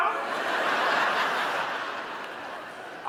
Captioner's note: audience laughing